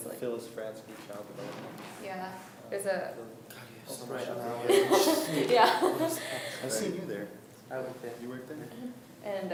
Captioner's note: students talking and laughing